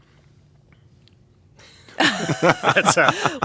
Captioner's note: laughter